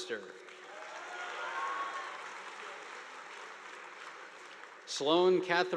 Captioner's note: audience applauding